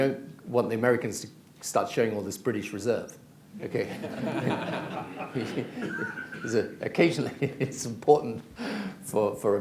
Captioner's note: laughter